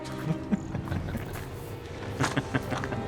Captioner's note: chuckles